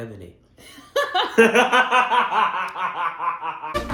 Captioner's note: laughing fit